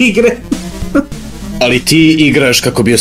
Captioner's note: crying